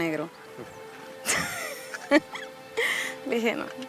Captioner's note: Mariana laughs